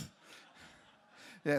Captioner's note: laughter